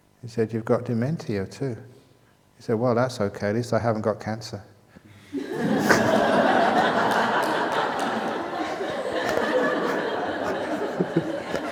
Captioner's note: laughter